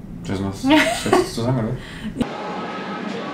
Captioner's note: laughs